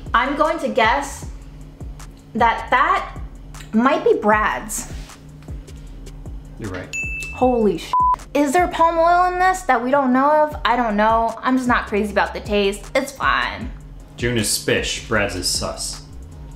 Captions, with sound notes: I'm going to guess that that might be Brad's. - You're right. (dinging) - Holy (beeping) Is there a Palm oil in this that we don't know of? I don't know. I'm just not crazy about the taste, it's fine. - June is 'spic, Brad's is sus.